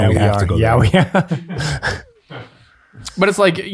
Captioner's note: laughs